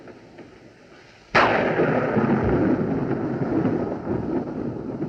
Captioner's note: loud Thunderclap